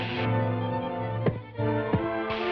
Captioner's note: muffled banging